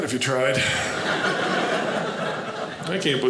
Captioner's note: audience laughing